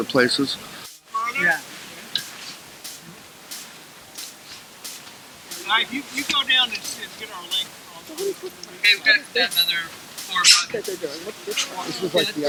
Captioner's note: people speaking in background